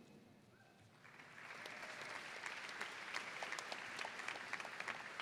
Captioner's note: audience applauds